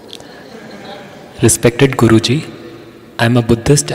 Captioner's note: laughter